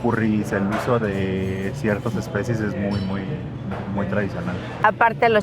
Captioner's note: speak in Spanish